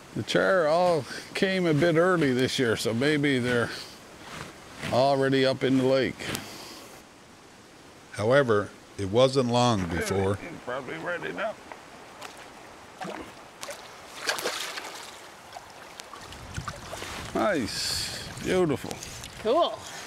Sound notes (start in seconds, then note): 12.9 fish spalshes